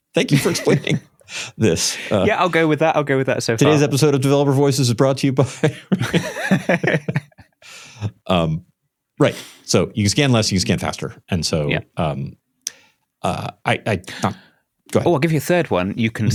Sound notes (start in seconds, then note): 8.0 laughter